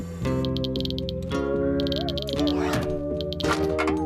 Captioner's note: clicking